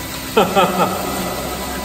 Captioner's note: laughing